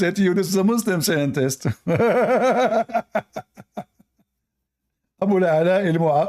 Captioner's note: Ketawa